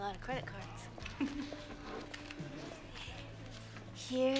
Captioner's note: laughs